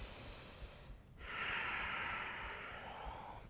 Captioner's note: deep breath